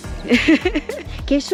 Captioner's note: laugh